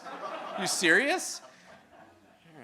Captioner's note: audience laughing